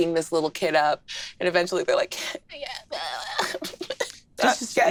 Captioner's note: sobs